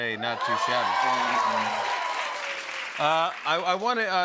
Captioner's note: cheers and applause